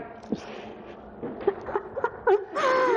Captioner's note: laughing